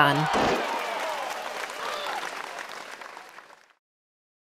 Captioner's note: thunderous applause